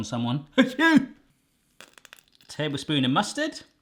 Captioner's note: fake sneezing